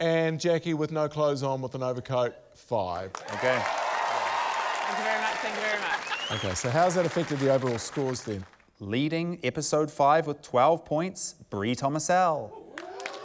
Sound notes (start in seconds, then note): 3.1 cheering, applause